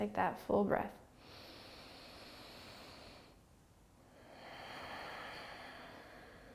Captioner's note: inhaling and exhaling